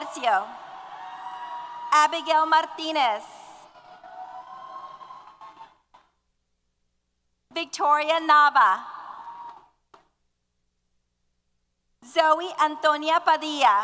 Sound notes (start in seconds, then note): 3.7 applause & Cheers